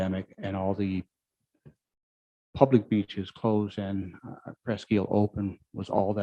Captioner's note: murmurs